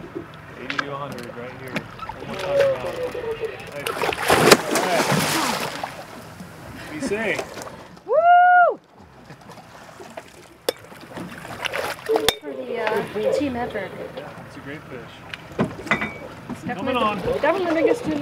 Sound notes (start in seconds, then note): 1.8 fish splashing; 11.5 thunk, thunk